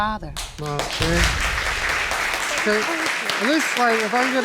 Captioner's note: audience applauds